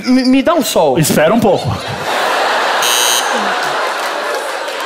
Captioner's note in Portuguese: campainha